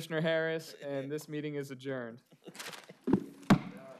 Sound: laughter

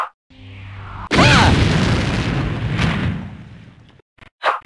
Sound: 3d movie maker screaming noise

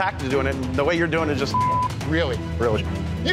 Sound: beep

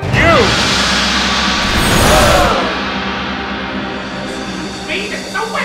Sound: dramatic tense music; people gasping

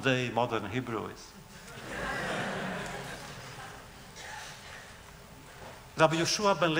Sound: laughter

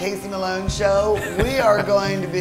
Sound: laughs

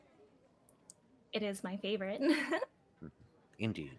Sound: chuckling

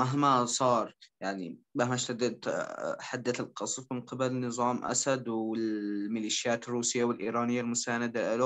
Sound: translating in Arabic

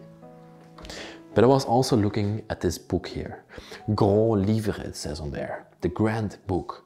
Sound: speaks French

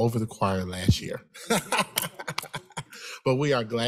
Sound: chuckles

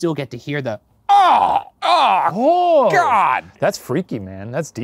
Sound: stammering

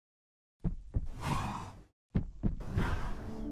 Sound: hooves beating; horse blowing; gentle music

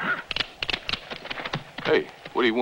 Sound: guns cocking

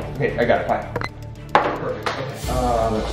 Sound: phone beeps

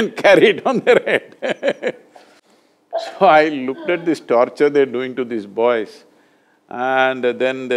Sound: laughs; laughs

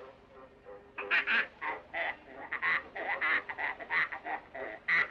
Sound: oinking in rhythm

